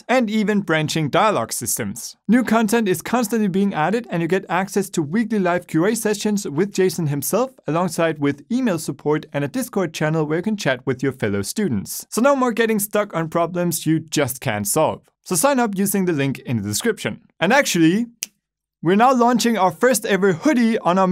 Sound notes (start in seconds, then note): 18.1 snaps fingers